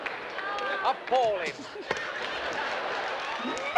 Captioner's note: snickers